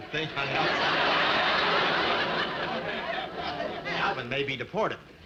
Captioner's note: audience laughing